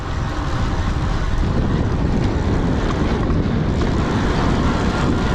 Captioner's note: bike gears rattling